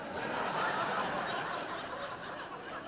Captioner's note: audience laughing